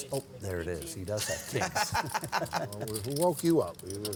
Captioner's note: laughs